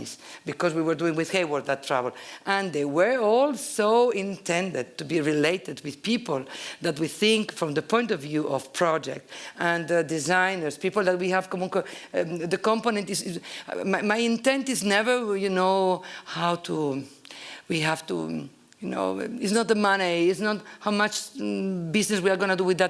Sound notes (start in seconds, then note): 11.5 italian